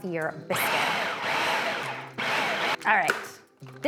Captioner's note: processor whirs